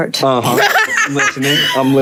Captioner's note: Lovie laughing